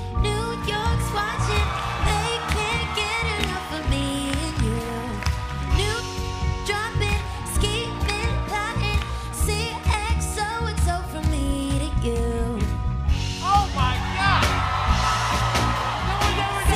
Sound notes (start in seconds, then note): 13.4 cheers and applause